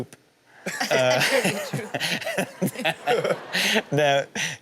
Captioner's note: audience laughs